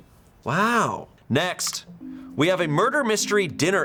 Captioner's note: button clicks